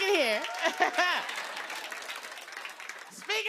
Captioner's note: cheers and applause